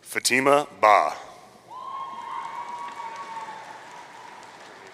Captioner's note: audience cheering